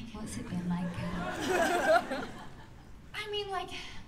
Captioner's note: laughter